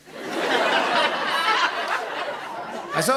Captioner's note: laughter